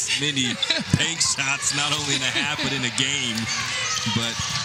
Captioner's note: laughter